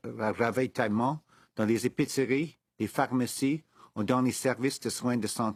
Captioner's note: speaking French